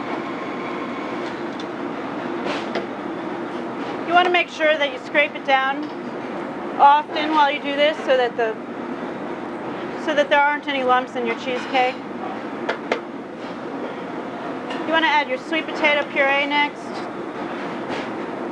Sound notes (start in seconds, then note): 12.2 spatula clangs